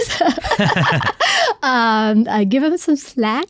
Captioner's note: both laughing